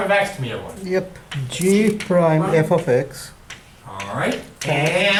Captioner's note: voiceover